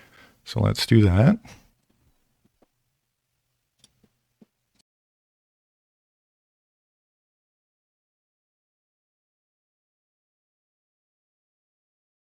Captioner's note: silence